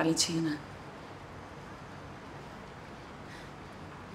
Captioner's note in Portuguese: valentina respirando tensa